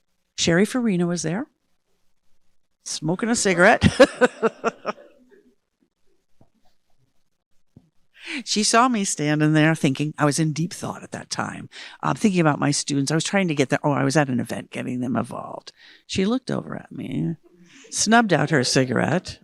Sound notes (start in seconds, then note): 3.6 laughing